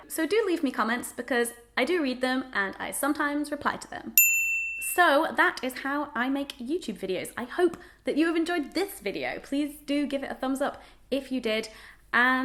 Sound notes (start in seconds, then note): 4.2 bell